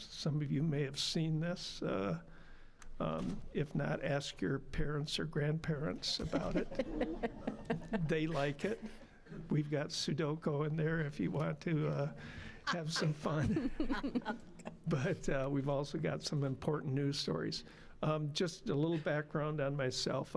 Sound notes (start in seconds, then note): 6.2 audience laughing; 12.6 all laughing